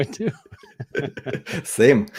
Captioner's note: laughing